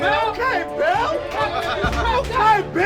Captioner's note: players chant